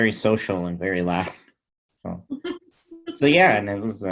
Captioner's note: chuckles